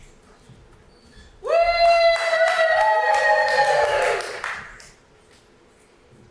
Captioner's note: more audience cheering and clapping